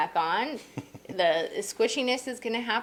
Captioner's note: laughing